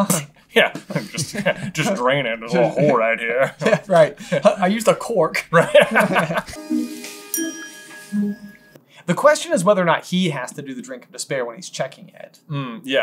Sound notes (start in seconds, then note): 5.5 laughter